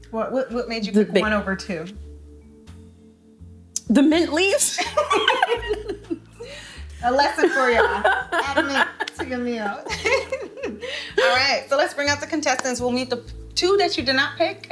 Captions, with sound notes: What made you pick one over two? - The mint leaves. (both laughing) - A lesson for y'all, add mint to your meals (laughing). All right. So let's bring out the contestants. We'll meet the two that you did not pick,